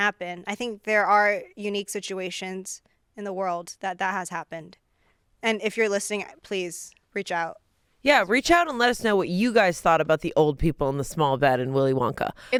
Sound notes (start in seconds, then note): none